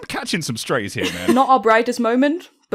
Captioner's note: laughter